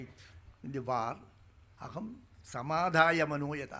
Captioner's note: speaking in Sanskrit